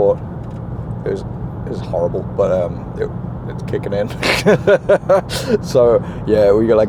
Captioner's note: laughs